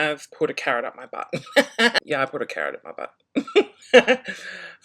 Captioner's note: laughs